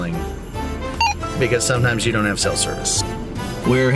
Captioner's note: radio beeps